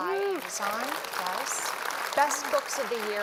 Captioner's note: applause